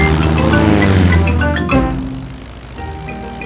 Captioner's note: plane engine revving